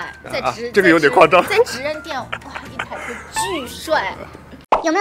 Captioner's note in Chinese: 哈哈哈哈哈